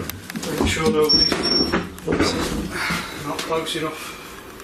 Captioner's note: drowned out by beeping